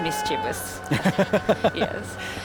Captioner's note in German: ziegen läuten, lacht